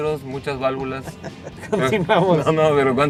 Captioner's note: laughter